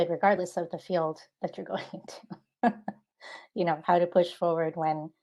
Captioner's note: laughing